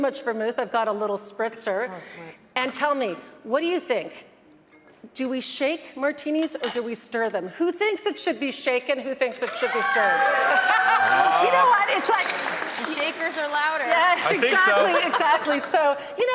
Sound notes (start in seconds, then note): 9.4 audience cheering; 9.4 audience applauding